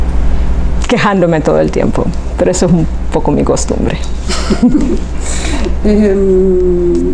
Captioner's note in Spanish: Se ríen